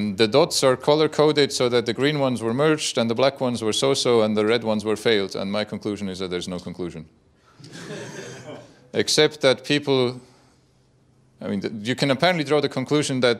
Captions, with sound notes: The dots are color coded so that the green ones were merged, and the black ones were so-so, and the red ones were failed, and my conclusion is that there's no conclusion. (laughter from audience) Except that people, you can apparently draw the conclusion that